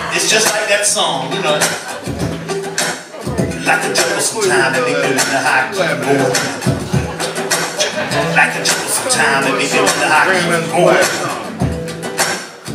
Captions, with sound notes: It's just like that song (vocal percussion) Like a jungle sometimes it makes me wonder how I keep from going under Like a jungle sometimes it makes me wonder how I keep from going